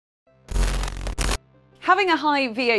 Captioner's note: electricity buzzing